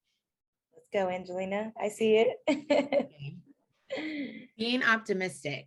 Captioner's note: laughs